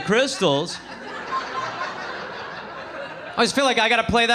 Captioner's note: audience laughing